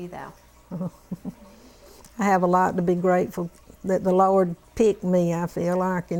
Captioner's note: laughter